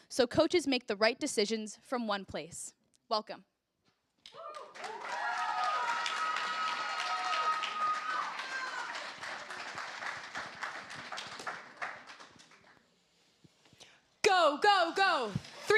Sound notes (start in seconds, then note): 4.3 cheers, applause